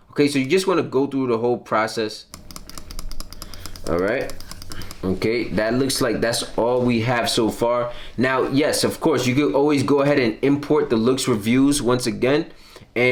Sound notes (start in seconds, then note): 2.3 mouse clicking